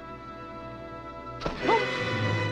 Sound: groans

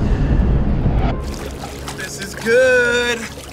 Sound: water splashes

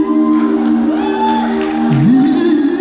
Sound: audience cheers

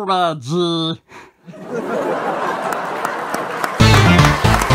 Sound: audience laughing and clapping

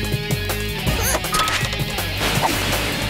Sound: grunting

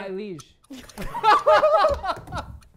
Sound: laughter

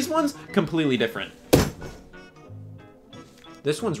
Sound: hammer thudding

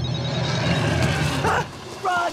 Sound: phone rings; growls

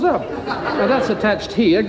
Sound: crowd laughs

